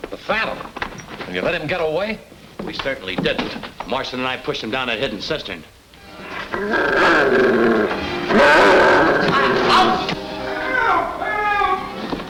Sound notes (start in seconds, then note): 7.0 dramatic orchestral music; 8.2 devil growls